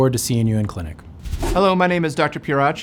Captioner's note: wind whooshing